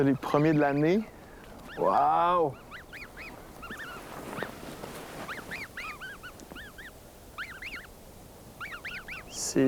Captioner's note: gosling chirps